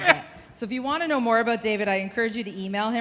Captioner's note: laughing